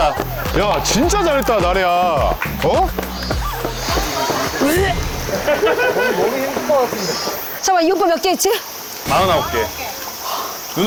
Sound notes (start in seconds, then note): 4.5 dry heaving